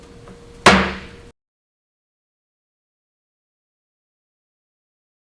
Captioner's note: loud bang followed by silence